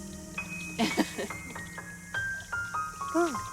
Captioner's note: laughs